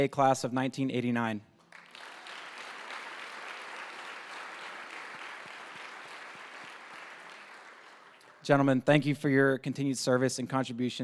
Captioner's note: applause